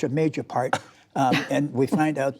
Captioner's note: laughter